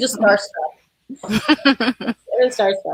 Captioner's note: laughing